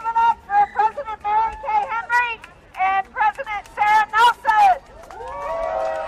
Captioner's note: applause